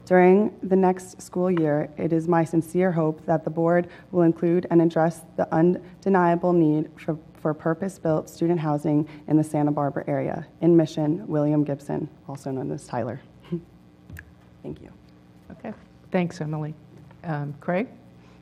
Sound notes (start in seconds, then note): 13.3 laugh